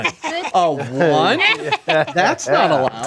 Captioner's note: group laughs